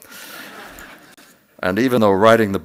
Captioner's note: laughter